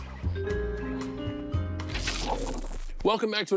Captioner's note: music ends abruptly; static interference